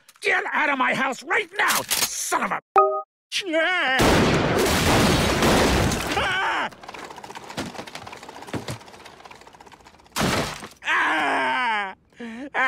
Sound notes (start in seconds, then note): 4.0 gunshots; 6.2 Rob screams